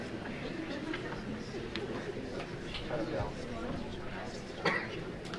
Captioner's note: light chattering